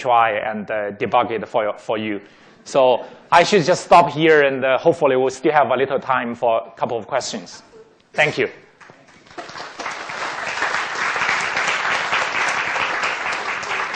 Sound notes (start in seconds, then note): 8.8 applause